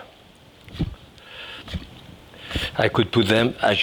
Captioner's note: knife chopping